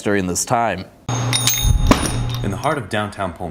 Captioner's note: bell rings